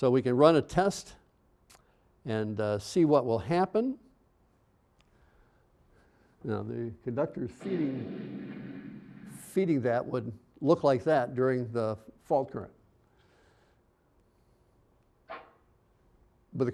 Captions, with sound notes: SO WE CAN RUN A TEST AND SEE WHAT WILL HAPPEN. THE CONDUCTOR IS FEEDING-- (rumbling, exploding) FEEDING THAT WOULD LOOK LIKE THAT DURING THE FAULT CURRENT.